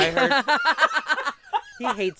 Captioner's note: everyone laughs; laughs